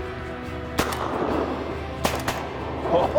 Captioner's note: gun shots